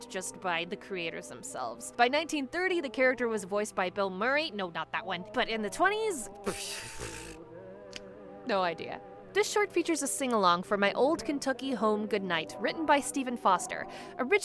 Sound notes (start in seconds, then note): 6.4 blowing raspberry